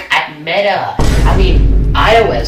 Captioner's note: boom